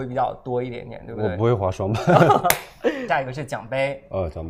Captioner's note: laughs